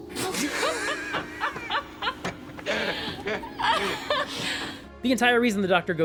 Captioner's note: both laugh